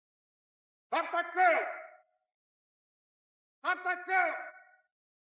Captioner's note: shouting and police whistle blowing